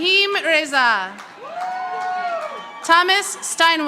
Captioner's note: audience applauding